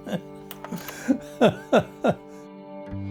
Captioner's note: laughs